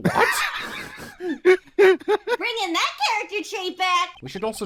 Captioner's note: laughter